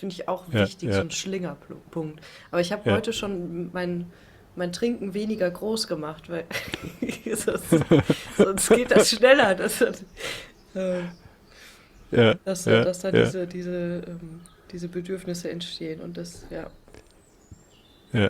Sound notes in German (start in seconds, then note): 12.1 schnauben